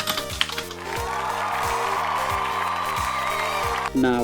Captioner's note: cheering